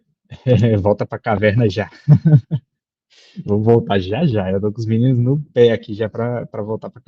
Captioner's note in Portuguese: risada